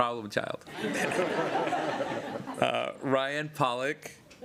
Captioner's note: laughter